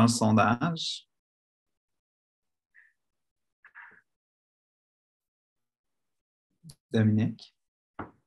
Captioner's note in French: silence